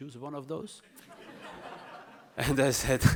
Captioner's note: audience chuckles